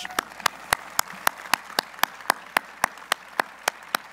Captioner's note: applause